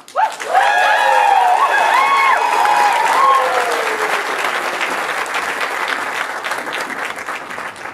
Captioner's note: audience cheers and applause